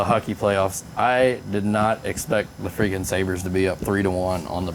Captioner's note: laughing